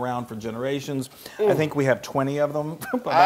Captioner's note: laugh